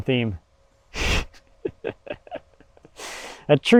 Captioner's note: chuckling